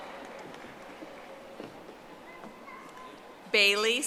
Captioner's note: audience applauding